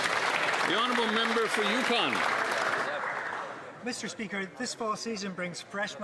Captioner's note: some Applause